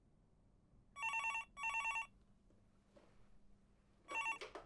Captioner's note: phone rings